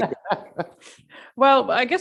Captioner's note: man laughing